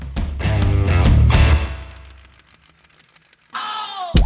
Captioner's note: reel flickering